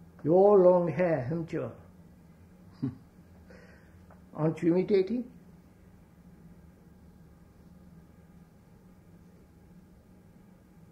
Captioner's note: laughs